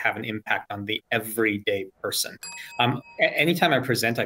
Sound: bell dings

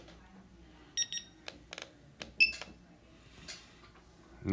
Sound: beeping

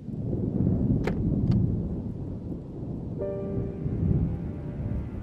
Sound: thunder rumbling; tense music

